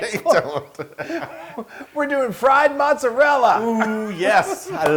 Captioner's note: laugh